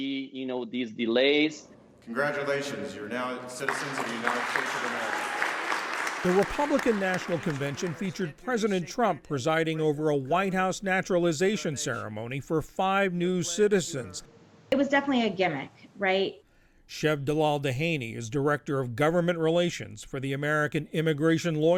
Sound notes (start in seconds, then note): 6.8 cheering and applause